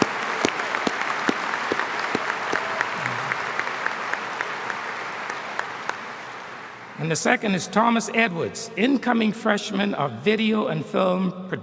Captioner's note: applause